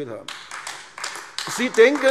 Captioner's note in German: Beifall AfD